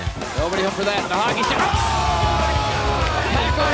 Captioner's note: crowd exclaiming